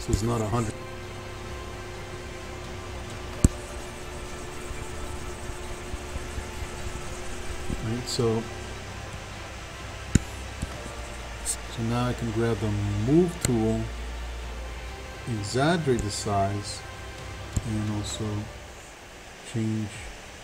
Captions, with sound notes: So, it's not 100. (faint techno music) (computer mouse tapping) (faint techno music) Right, so. So, now I can grab the Move tool. Exaggerate the size and also change the form, if I want.